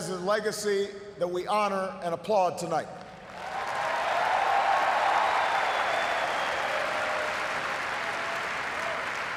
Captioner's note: cheers, applause